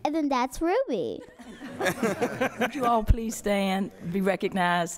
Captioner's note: laughter